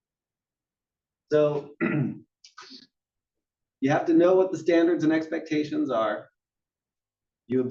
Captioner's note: cough